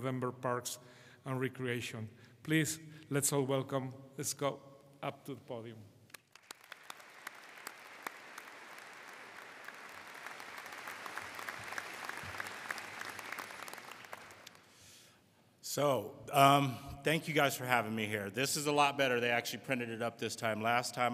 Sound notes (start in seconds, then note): 6.1 audience applauding